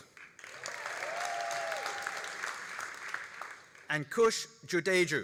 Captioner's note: all applauding and cheering